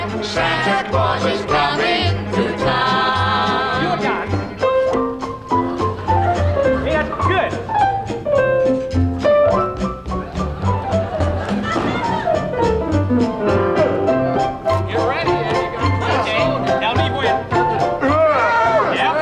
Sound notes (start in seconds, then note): 10.1 audience laughing; 14.7 overlapping chatter